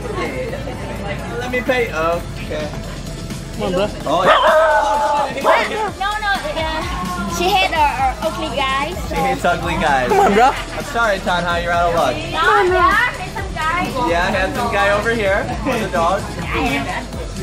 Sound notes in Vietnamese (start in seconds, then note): 4.2 gâu gâu; 4.2 sủa